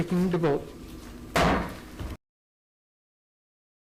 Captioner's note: gavel bangs